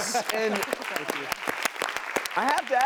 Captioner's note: applause